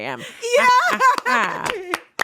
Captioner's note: claps